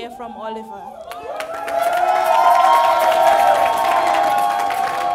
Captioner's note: crowd cheering